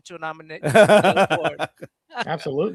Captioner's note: laughing